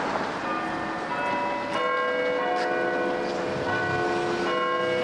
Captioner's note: bells ringing